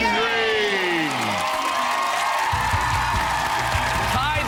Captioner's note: cheers and applause